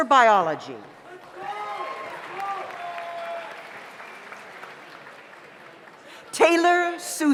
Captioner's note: audience applauds; audience cheers